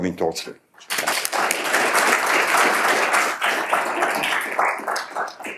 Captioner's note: audience clapping